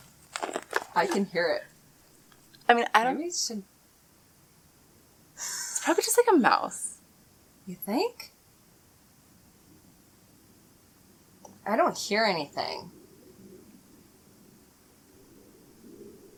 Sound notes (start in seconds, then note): 5.1 laugh